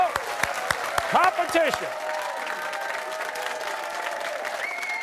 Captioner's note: cheering